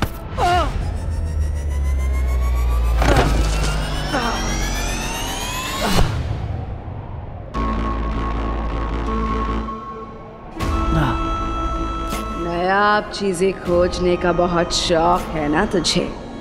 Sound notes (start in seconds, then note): 3.0 thud; 7.5 ominous music plays